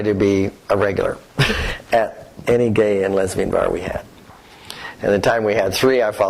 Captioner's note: laughs